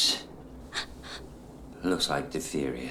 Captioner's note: gaspiflg